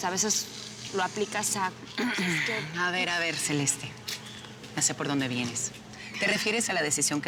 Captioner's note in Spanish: Griselda carraspea